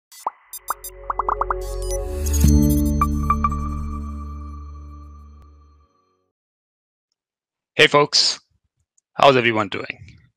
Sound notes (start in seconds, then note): 0.2 logo beeping; 2.4 ambient music